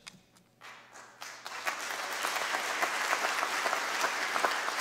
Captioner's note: applause